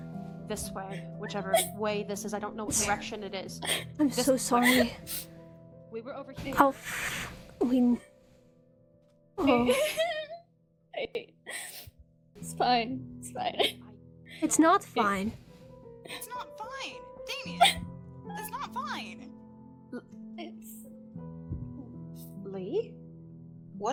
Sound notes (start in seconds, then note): 10.0 whimpers; 11.5 sniffles